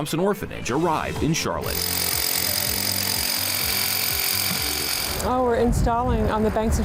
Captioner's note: tool buzzing loudly